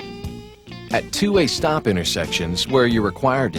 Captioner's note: voiceover